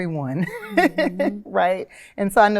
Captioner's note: chuckles